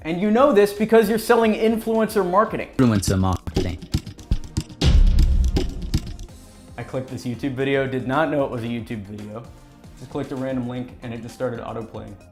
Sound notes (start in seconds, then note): 2.7 drum beats; 3.0 voiceover